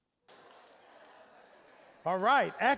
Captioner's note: general chatter